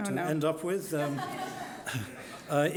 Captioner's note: audience laughing